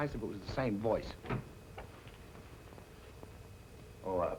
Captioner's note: door opens